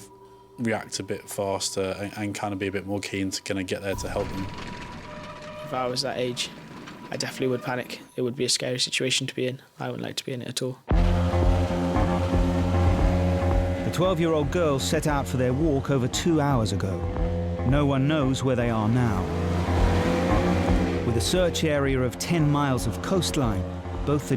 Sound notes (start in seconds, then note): 11.3 boat buzzing; 11.3 dramatic rock music